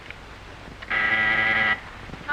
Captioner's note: buzzer